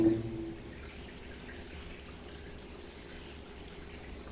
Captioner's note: water dripping